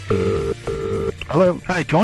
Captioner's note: phone dial ringing